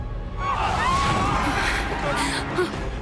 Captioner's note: crowd shouting